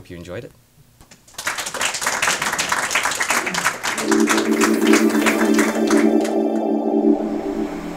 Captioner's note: techno music; applause